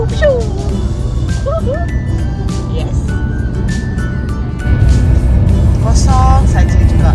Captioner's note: laugh